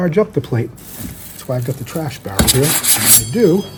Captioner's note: plate scrapes